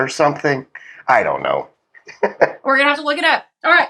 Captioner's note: laugh